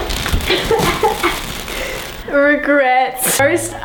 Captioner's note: coughing